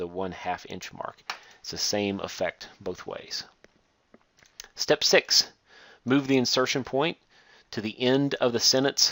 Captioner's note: click